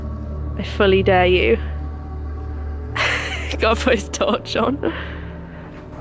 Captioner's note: laughs